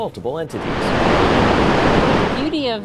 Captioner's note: waves